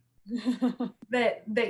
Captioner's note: soft laughs